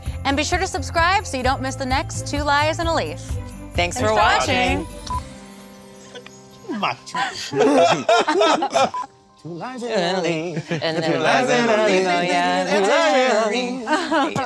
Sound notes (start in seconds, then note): 7.2 group laughs; 14.2 group singing